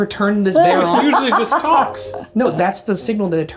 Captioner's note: laughs